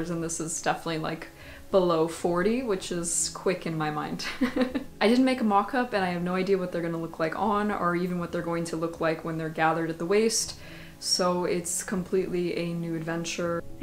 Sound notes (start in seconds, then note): 4.4 laughs